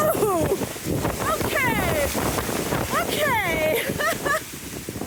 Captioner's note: laughing